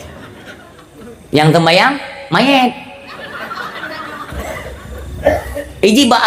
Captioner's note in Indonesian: tertawa